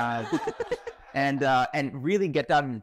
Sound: audience laughing

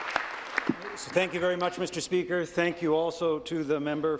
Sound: applause

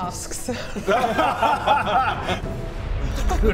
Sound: winning laughter

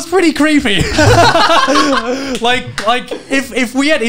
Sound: men laughing

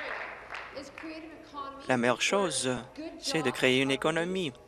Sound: applause

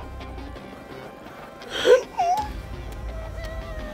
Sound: gasping

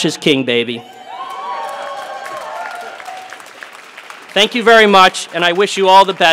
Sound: applause

